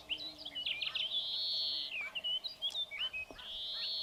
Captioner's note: birds calling